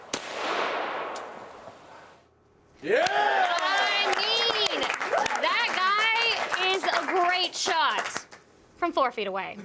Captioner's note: shots; applause